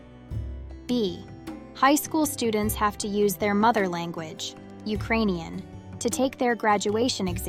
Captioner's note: Ukrainian